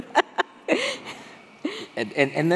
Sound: laughing

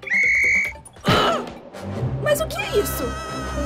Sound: whistles

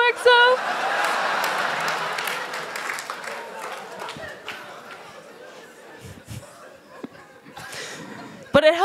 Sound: laughter; applause

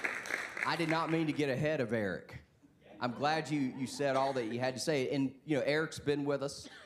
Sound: applause

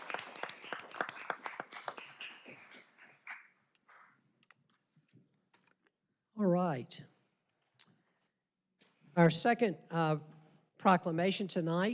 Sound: applause

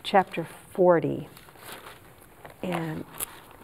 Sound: paper rustling

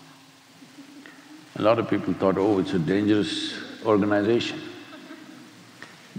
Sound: few laugh

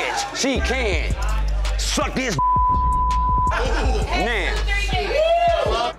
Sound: beep

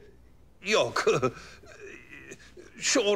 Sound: laughter

